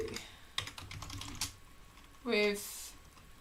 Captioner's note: keyboard clicking